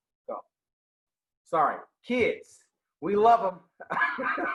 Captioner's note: laughing